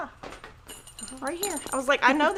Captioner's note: keyring clinks